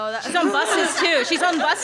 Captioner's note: laughs